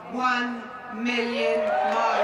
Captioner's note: cheering and applause